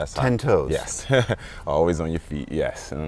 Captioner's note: chuckles